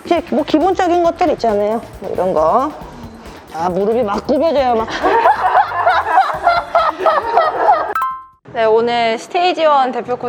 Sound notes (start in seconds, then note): 4.8 laughter